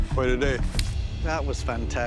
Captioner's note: slap